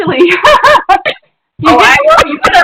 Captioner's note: laughter